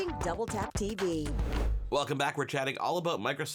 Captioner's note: air whooshes